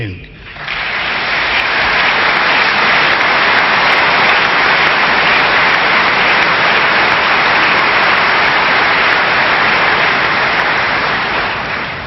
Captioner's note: applause